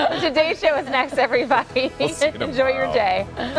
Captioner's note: laughter